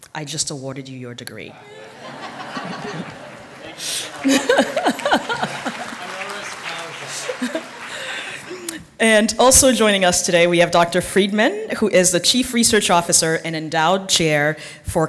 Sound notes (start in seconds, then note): 4.6 laughter; 5.6 applause